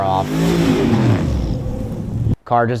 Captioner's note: car engine revving